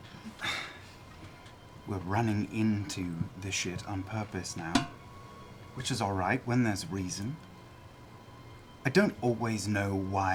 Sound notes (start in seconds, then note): 0.2 sighs